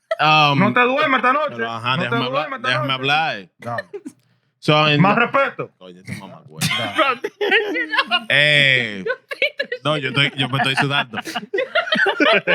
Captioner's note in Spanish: Hablando en idioma extranjero; Riendo